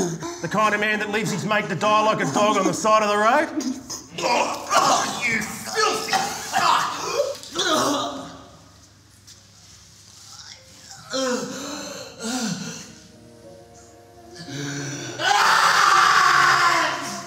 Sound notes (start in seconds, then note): 3.0 retches; 6.8 gasps; 15.1 screams